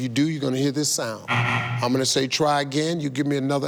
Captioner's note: buzzer sounds